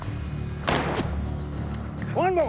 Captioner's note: gunshot